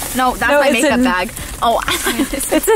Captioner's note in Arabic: ضحكات خافتة